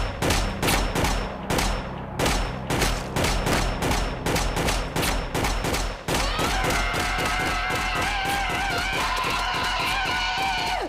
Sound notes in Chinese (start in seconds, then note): 0.2 槍聲; 6.6 槍聲 咆哮聲